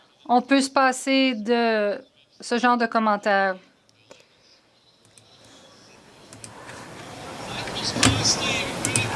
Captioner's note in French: voix de l'interprète